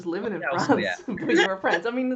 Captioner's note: laughs